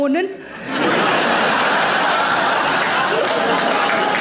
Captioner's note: audience laughs